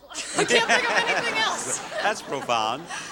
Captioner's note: laughing